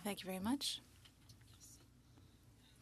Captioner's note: speaking French